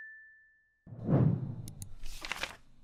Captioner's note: clicking and page turning sounds